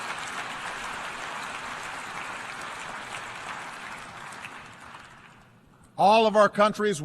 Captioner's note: applause